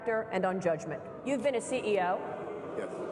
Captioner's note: booing